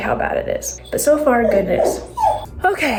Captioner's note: dog whines